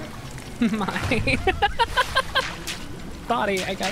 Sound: laughter

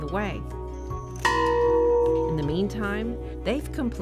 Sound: gong rings

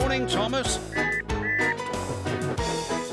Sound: engine whistle

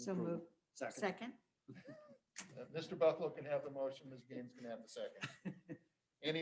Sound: laughter

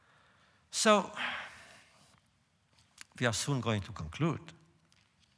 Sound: sighs

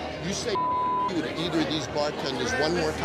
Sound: beep

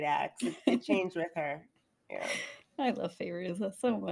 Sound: laughs

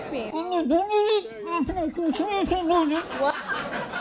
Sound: Andy mumbling

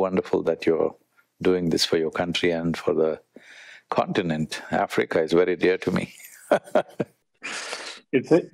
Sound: laughs

